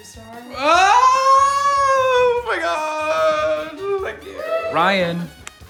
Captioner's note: cheers